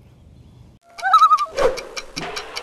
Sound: loon call

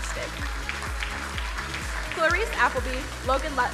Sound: crowd applauding

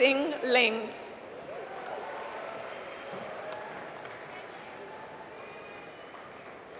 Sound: applause

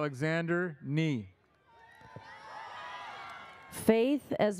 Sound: audience cheers

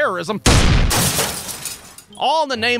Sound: boom!

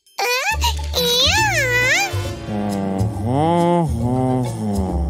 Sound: baby talk

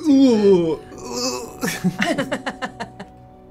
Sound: moans; laughter

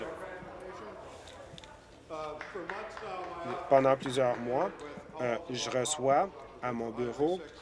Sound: applause

